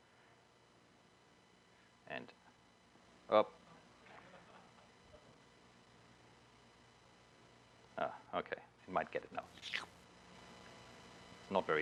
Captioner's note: pause